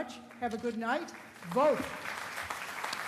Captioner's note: applause